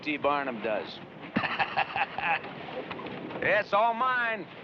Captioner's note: laughing